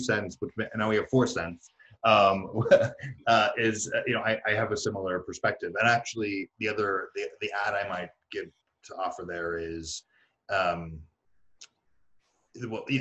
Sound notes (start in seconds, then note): 2.1 chuckles